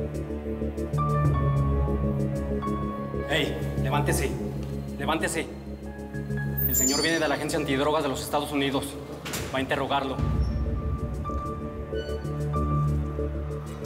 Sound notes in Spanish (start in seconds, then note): 3.7 ruido metálico